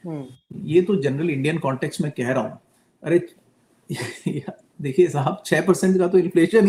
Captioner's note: laughs